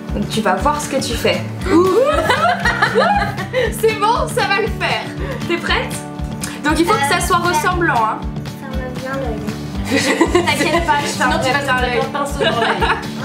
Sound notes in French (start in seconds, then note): 9.8 rires